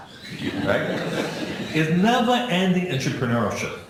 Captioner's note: laughing